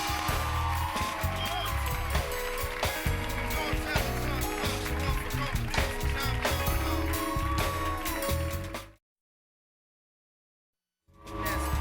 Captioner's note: cheers and applause